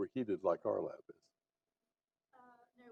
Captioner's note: off microphone